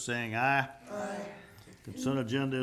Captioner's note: group chanting